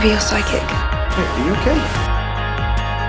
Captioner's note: voiceover